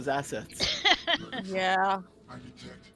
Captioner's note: laughs